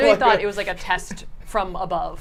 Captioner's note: laughs